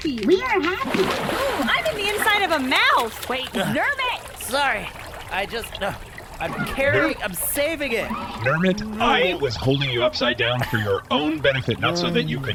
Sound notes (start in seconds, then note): 1.7 sound of splash; 1.9 happily; 4.9 splashing noises